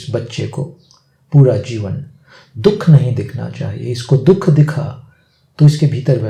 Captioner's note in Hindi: नाक से की जाने वाली आवाज़